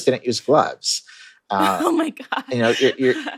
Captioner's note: laughter